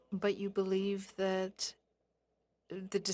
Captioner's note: speaking French